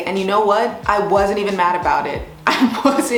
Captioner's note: laughs